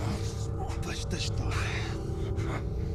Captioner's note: speaking foreign language